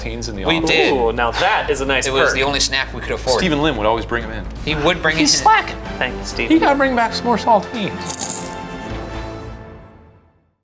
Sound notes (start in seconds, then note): 8.0 food crunching